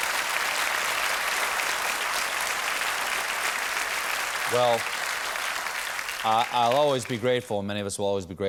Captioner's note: applause